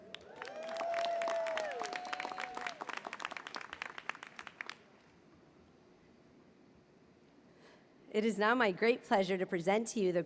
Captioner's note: applause